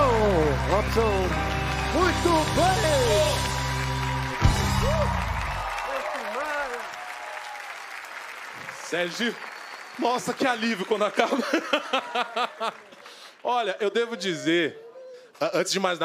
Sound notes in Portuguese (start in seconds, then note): 1.4 aplausos; 7.4 aplausos